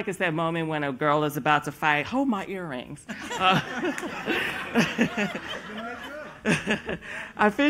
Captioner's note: laughter